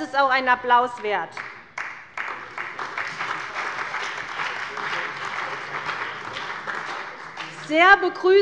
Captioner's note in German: Beifall bei der CDU und dem BÜNDNIS 90/DIE GRÜNEN